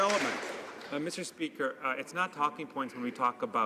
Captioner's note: some Applause